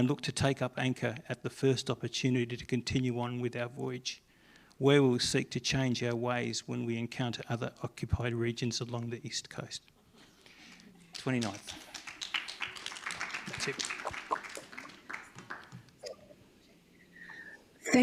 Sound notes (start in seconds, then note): 11.1 applause